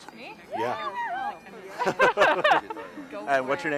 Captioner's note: both laughing